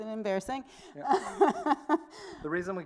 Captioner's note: laughs